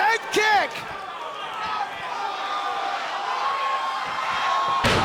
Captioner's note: crowd cheering